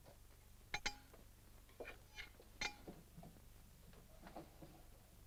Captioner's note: magnets clink